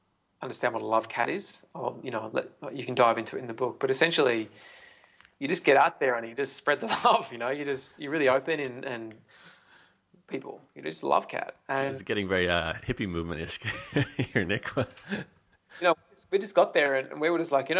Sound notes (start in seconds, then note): 7.7 laughs